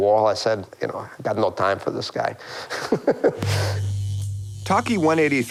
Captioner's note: chuckles